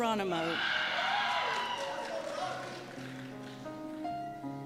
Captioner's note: applause and Cheers